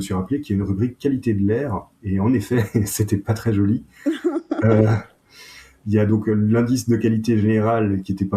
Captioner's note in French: rires